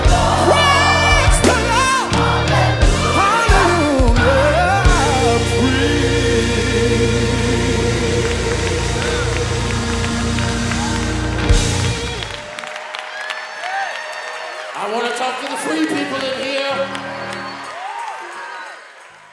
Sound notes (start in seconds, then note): 9.6 applauding and cheering